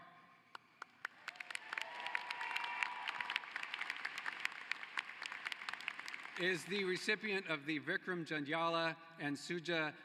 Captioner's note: applause